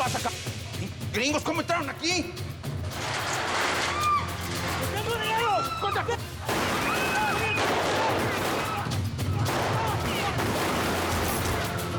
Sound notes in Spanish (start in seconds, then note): 3.2 sonido al abrir la puerta; 4.9 gritos y exclamaciones